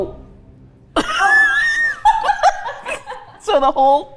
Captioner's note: laughs